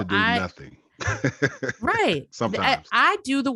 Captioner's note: chuckling